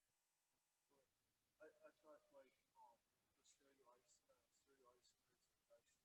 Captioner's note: student speaking faintly